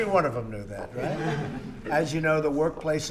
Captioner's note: laughter